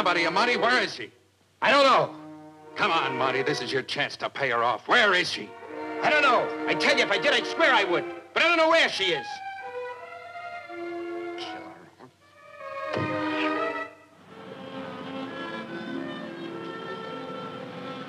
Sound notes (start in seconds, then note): 11.5 Monty grunting; 13.9 dramatic orchestral music